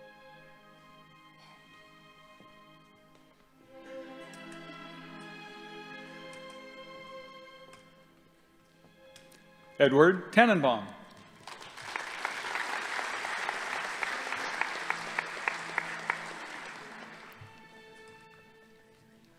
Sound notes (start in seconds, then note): 11.2 audience applauding